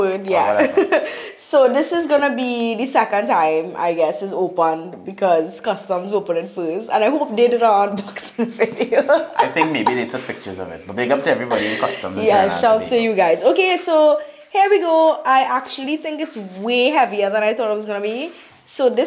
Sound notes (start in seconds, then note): 0.4 haha; 8.8 haha